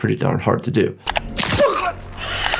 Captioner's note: mouse clicking; bones crunching; victim choking